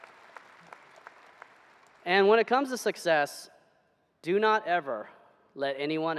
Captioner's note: applause